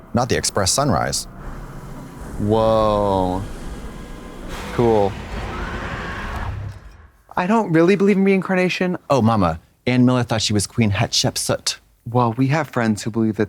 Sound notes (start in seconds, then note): 3.3 scary music; 4.6 Jin screams